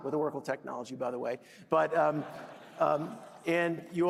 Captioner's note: laughter